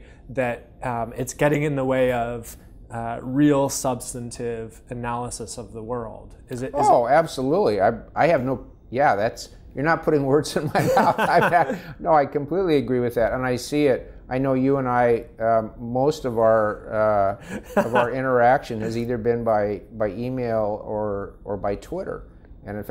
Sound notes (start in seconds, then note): 10.6 laughing; 17.4 laughing